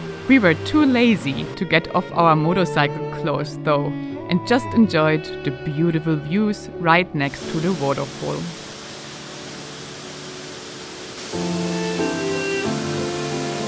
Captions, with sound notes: We were too lazy to get off our motorcycle clothes though, and just enjoyed the beautiful views right next to the waterfall. (waterfall humming)